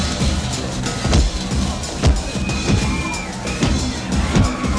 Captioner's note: blows thudding